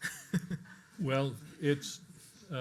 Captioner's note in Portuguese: laughs